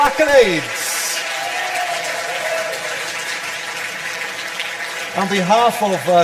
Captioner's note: audience applause